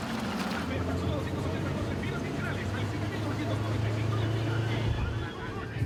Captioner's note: playful shouting; latino talk radio chattering